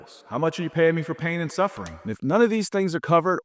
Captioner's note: screen clicking